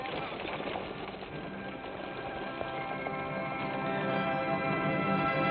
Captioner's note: horses trotting